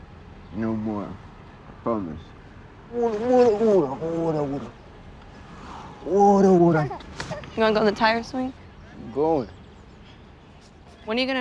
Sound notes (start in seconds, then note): 3.1 baby laughs; 3.1 baby talk